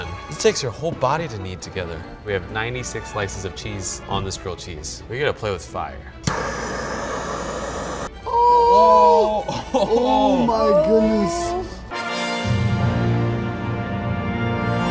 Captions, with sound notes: It takes your whole body to knead together. We have 96 slices of cheese on this grilled cheese. We're gonna play with fire. (gasping) - Oh my goodness! (dramatic music)